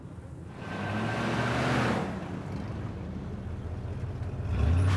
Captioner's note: car engine roaring; car engine revving; tires screeching